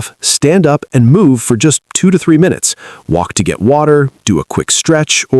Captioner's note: voiceover